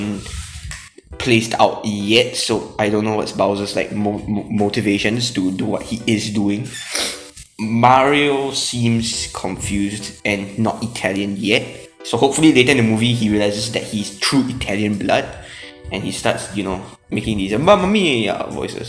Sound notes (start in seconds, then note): 6.8 sniff; 15.4 inhales